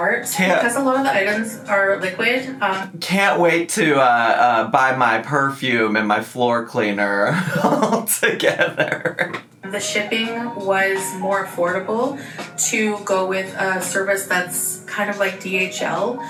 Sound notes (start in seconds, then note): 7.2 laughs